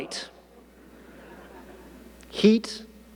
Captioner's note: audience laughing